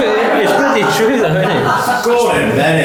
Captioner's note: laughing